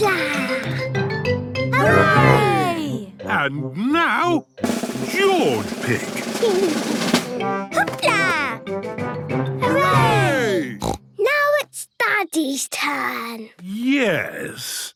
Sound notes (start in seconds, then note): 4.6 drumroll; 10.8 snort